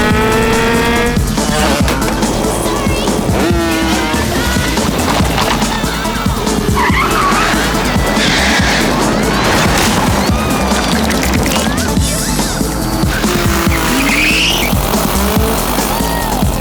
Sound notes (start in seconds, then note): 11.4 screaming